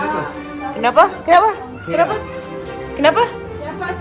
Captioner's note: speaking German